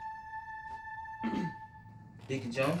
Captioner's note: clears throat